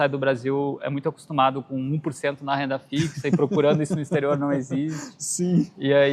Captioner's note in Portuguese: risadas